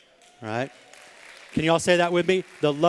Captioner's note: applause